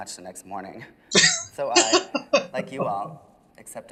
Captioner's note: laughing